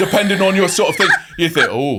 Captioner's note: laughing